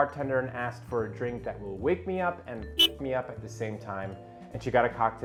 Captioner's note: sfx: car horn sound